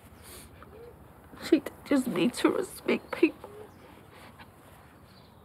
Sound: sobs

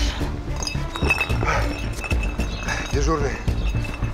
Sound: bottles clinking

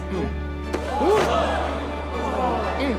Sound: all gasp

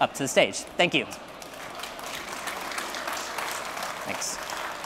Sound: applause

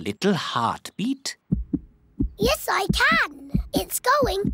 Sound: heart thumps

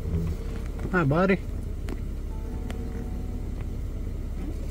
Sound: wind blowing

